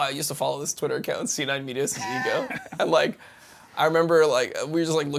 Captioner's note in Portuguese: risos